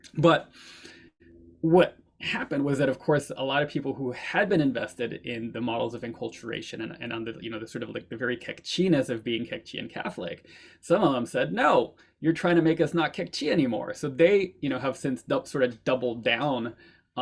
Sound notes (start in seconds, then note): none